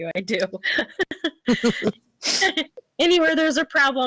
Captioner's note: laughing